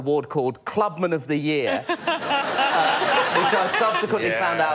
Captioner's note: laughter